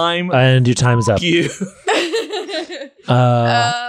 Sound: beep

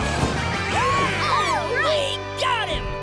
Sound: cheering

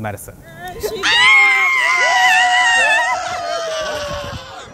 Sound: screams with excitement

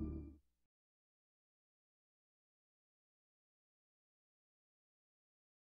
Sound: silence

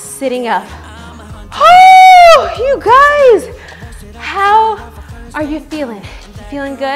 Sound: shouts

